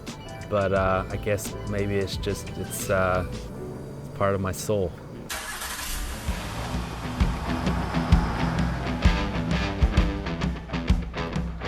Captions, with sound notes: but I guess maybe it's just part of my soul. (engine starter whirring) (engine revving) (uptempo rock music)